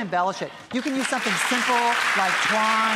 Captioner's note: audience applauds